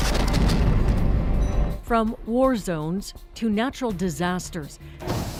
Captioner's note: explosions